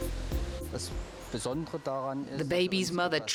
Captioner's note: speaking foreign language